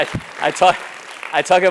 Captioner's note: applause